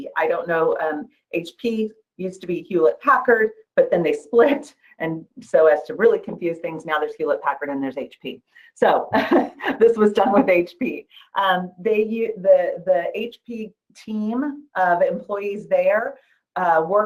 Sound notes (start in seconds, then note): 9.0 laughs